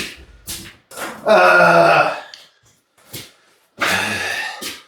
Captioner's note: roars in neaderthal